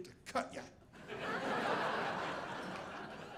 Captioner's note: audience laughing